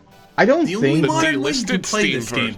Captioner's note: stammers